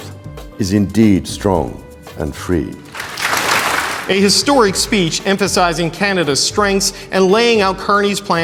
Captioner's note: applause